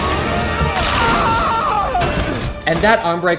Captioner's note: screaming; bones cracking